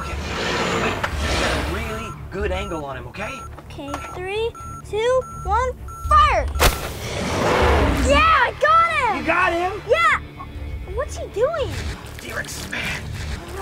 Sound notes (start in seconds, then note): 7.1 roar